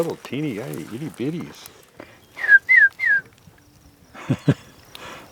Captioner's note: whistles, laughs